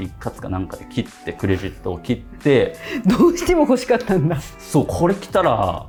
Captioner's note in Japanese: 笑い